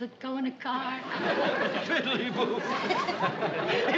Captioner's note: laughing